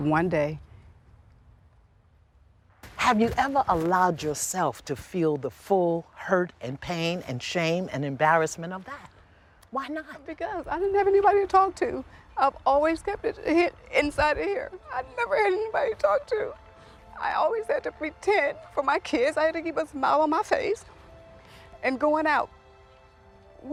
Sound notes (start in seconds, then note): 11.1 voice breaking